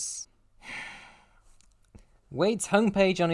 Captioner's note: exhale